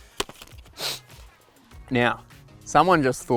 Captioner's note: sniffs